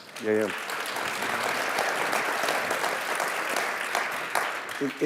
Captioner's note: clapping